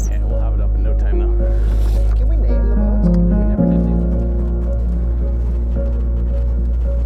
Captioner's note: men speaking indistinctly to each other